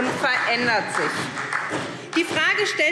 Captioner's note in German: Beifall SPD